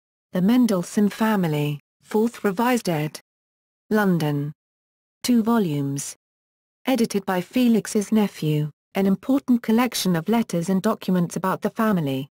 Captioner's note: German